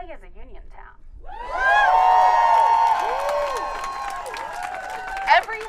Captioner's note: audience cheering